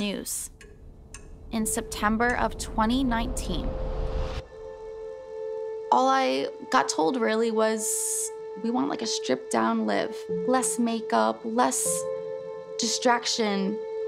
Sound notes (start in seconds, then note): 1.5 clock ticking